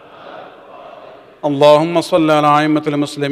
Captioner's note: arabic